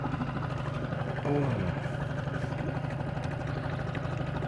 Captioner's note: boat engine droning